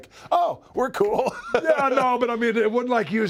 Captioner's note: laugh